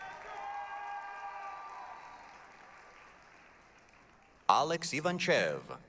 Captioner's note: applause, cheering